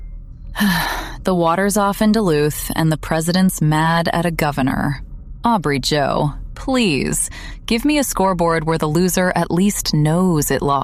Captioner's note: sighs